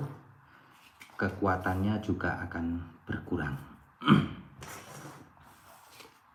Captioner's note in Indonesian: berdehem